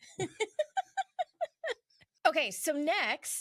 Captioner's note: laughs